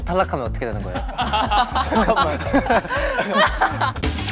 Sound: laughing

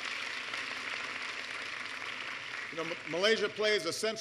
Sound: applause

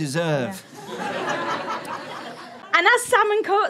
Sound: audience laughs

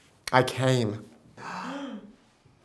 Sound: gasps

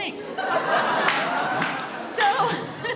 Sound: audience laughs

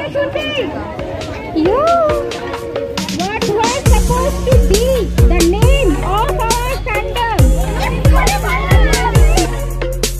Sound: crowd getting wild

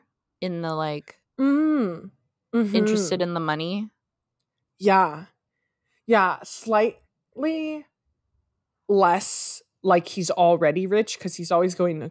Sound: mmm, mhmmm

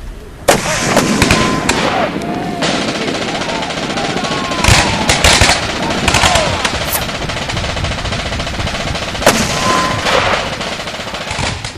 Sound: sound of gunfires and shouts of pirates fighting each other

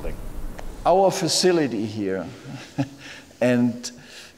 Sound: laughs

